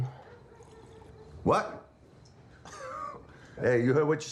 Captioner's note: chuckles